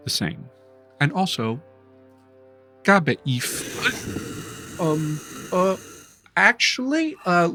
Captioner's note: dragon hisses